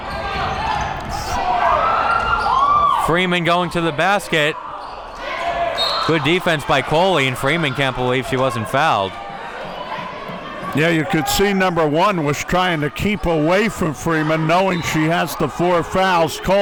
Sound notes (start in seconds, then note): 1.9 woman whooing; 5.8 whistle blows